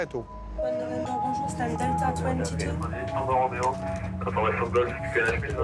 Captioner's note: French spoken audio